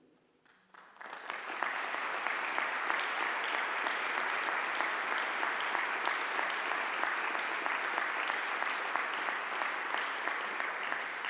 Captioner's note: audience applause